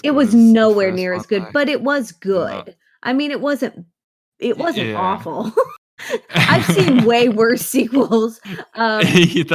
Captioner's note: laughs